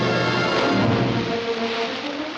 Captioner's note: splashing